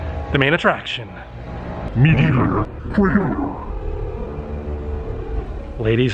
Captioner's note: echoes